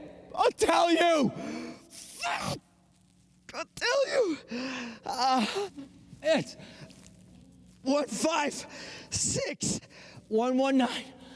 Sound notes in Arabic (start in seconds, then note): 5.2 يشتكي